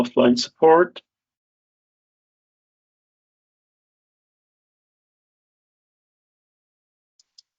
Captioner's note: mouse clicking